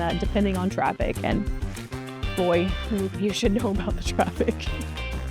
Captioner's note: giggles